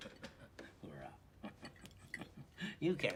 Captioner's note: chuckling